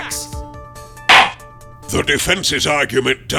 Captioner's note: gavel slams!